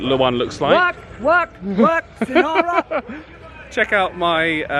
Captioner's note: laughing